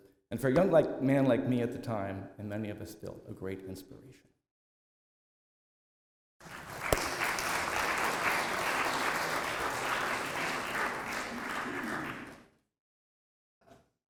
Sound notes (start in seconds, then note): 6.4 applause